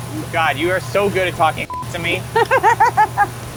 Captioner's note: beep; laughs